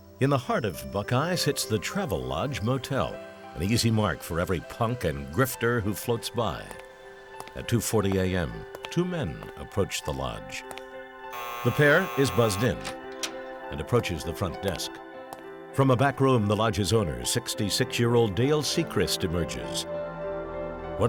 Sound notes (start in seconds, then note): 11.3 buzzing